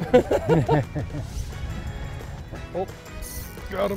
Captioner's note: both laugh